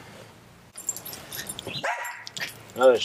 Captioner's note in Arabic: كلب ينبح